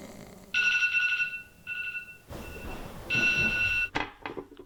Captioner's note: alarm ringing; cell phone clatters